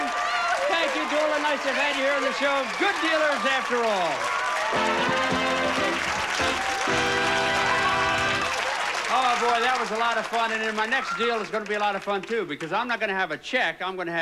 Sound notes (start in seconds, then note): 5.9 audience applauding